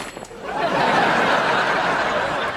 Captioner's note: laughing